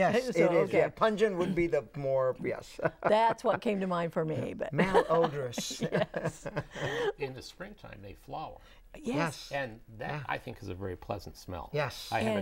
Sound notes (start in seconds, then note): 4.9 laughing